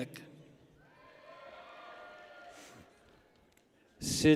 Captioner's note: people cheer